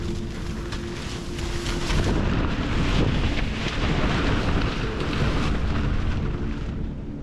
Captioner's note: wind